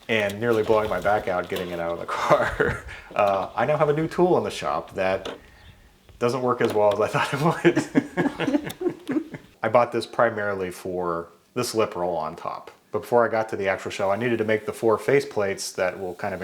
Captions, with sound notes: and nearly blowing my back out, getting it out of the car, I now have a new tool in the shop that doesn't work as well as I thought it was. (both laugh) I bought this primarily for theb slip roll on top. Before I got to the actual show, I needed to make the four face plates that will kind